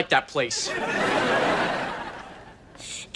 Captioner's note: audience laughter